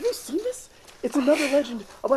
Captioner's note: chuckles